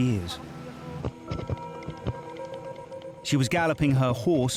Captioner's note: hooves thudding